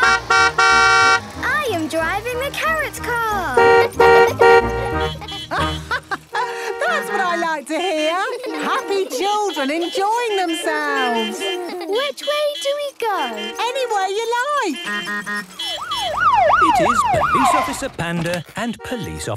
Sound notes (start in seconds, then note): 0.0 honking; 3.5 horns honking; 4.6 laughing; 7.7 laughter; 13.6 honking, siren wailing